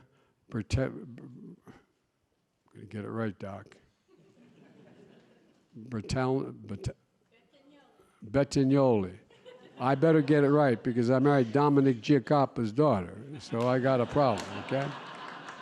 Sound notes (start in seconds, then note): 4.0 laughter; 9.2 laughter; 13.2 laughter